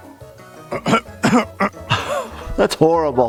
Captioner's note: coughs